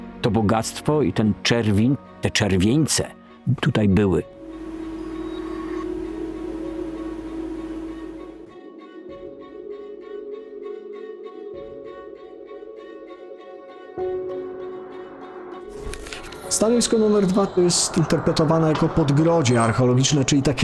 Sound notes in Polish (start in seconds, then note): 4.3 metaliczny dźwięk; 8.6 delikatna muzyka